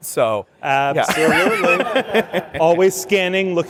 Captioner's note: laughter